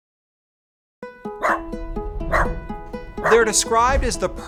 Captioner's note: lighthearted music; dog barking